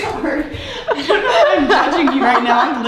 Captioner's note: laughing; speaker laughing